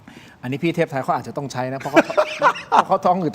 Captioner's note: laughter